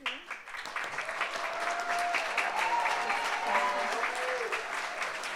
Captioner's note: audience applauds